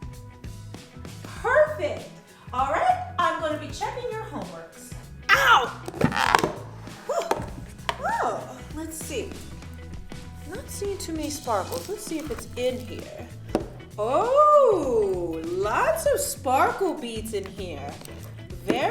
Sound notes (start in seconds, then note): 5.7 lid pops off; 7.0 gasps